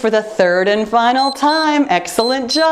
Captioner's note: timer beeps